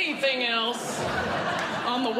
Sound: audience Laughing

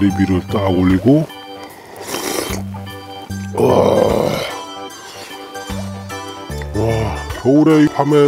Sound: inhaling broth

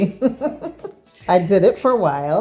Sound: woman laughing

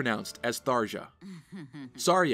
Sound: Tharja snickers

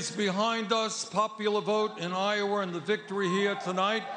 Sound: cheering

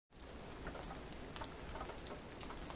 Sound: light rain throughout

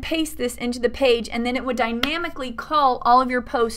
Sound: clap

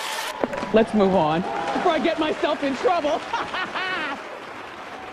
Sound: laughs

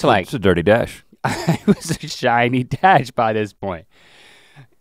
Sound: chuckles

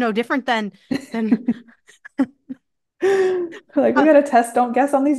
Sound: laughing

